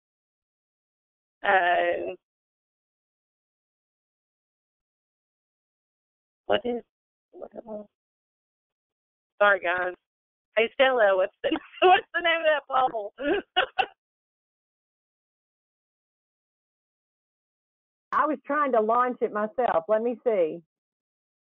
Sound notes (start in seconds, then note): 5.2 laughs